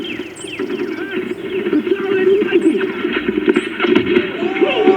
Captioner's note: combat sounds